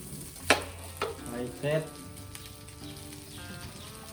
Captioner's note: dad speaking Thai